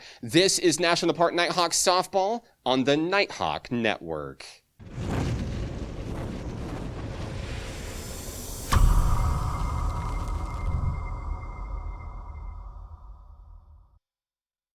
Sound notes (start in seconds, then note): 4.8 logo whooshing; 8.7 logo thudding